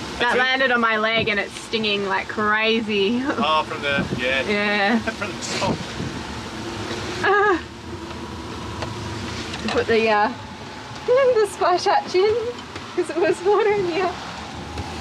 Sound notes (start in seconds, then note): 7.2 laughs; 10.2 laughs